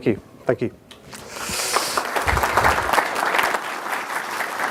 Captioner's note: audience applauds